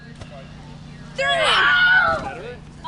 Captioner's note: screams